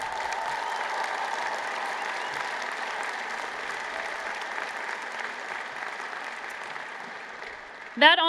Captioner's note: cheers and Applause